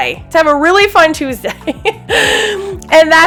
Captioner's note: laughs